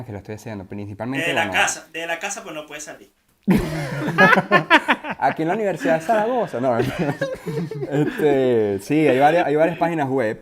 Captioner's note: laughter